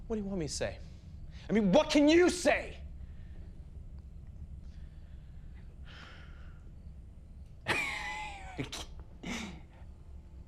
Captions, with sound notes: What do you want me to say? I mean what can you say? (tense music) (crickets chirping) (Tyler laughs)